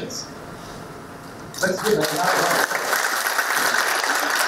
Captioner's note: applause